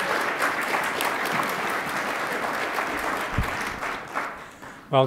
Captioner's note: attendees applauding